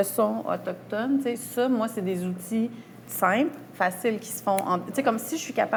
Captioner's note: snaps fingers